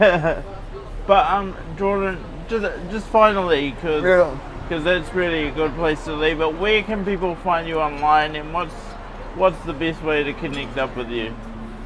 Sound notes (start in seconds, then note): 0.0 laughs